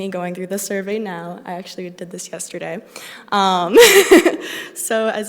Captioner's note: laughs